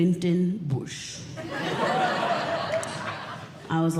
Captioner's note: audience Laughing